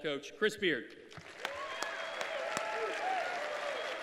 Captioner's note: cheers and applause